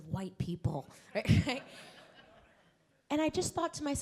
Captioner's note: laughs